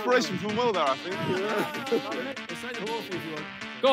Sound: laughs

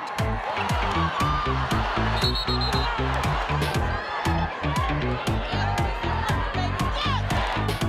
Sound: crowd cheering; whistle blowing

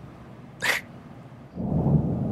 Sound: snickers

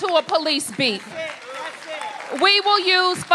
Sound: applause

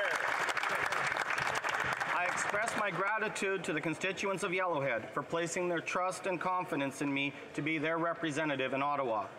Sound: some Applause

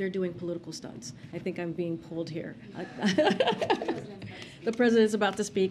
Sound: laughter

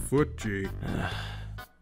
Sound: sigh

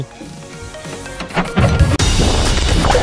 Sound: cargo carrier creaks; upbeat music

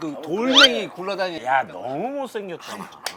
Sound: hollering

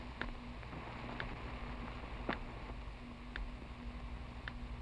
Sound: ticking

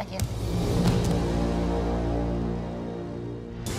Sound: thump

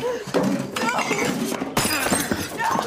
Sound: grunts

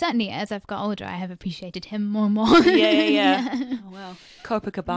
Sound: laughs

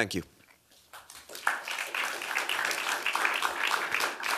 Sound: applause

